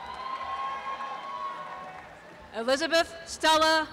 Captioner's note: applause and cheering